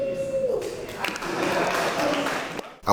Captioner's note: applause